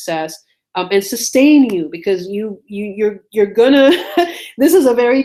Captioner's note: laughs